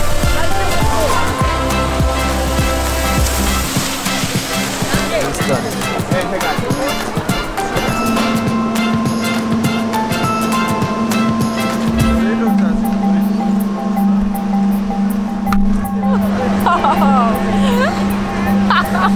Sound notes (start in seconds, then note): 9.2 upbeat music; 16.1 laughing